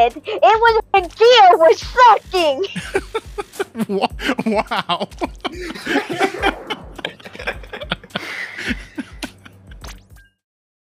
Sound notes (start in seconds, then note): 2.6 laughing